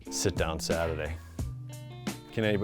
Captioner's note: laughs